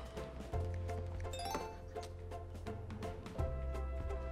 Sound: cellphone dings

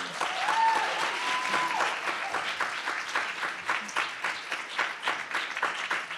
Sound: audience claps; audience cheers

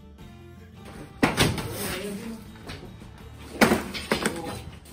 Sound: mallet thunking; drywall crumbling

